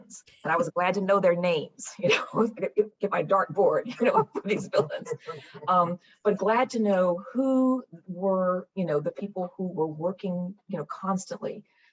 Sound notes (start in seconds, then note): 3.8 laughs